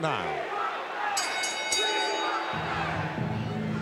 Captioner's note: bell ringing